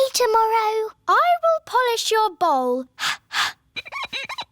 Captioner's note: exhales; glass squeaks